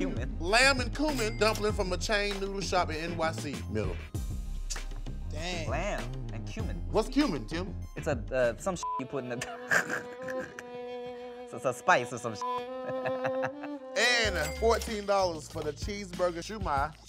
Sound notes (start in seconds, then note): 8.8 beep; 9.4 laughs; 12.5 beep